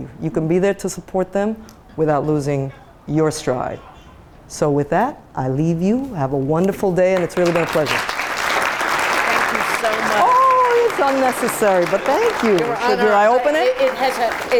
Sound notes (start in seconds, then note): 8.2 applause